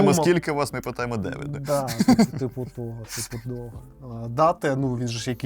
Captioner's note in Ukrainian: сміх